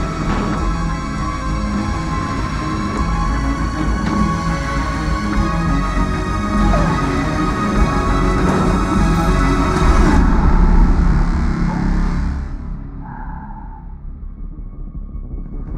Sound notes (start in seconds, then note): 6.1 whimpers; 11.2 breathing deeply